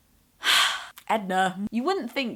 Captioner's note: star-struck sigh